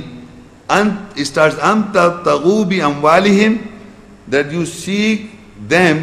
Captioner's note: Arabic